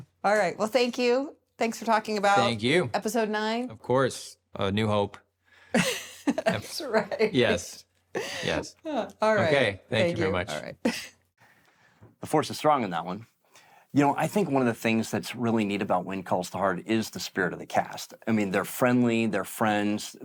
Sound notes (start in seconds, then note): 5.8 laughs